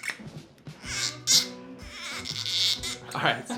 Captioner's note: cork squeaking to music